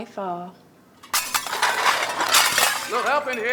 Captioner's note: glasses breaking